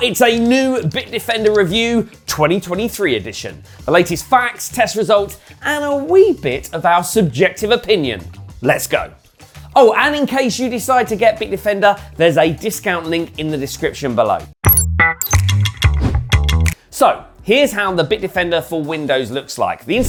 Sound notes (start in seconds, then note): 14.8 computer screeching; 15.8 upbeat music